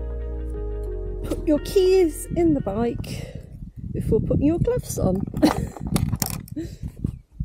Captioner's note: laughing